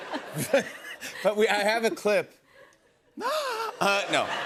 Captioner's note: gasps